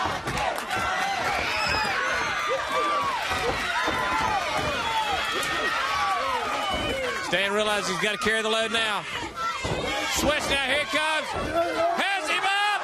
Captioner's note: crowd chatter